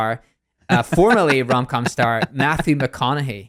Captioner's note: laughs